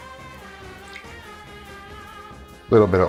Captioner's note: milk splashing